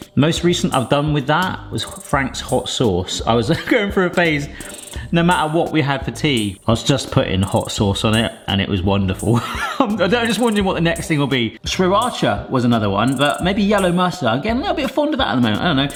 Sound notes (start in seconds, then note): 9.3 laughs